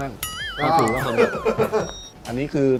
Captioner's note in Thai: หัวเราะ